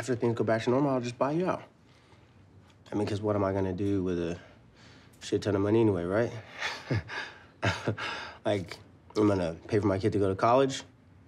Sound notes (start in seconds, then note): 6.5 chuckles